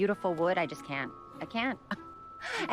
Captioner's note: chuckles